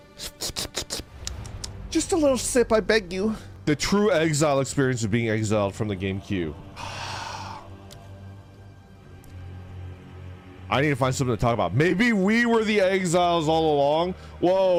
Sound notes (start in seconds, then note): 0.2 sipping noises; 6.7 sighs